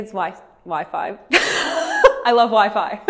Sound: laughs

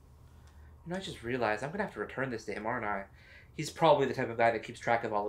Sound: none

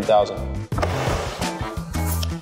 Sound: sliding; groovy music

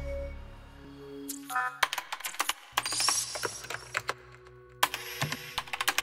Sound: typing

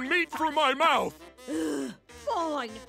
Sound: sighs

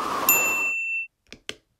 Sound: cold wind blowing; ding!

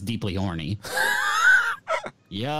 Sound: laughs

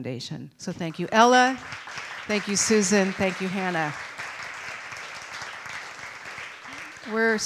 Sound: applause

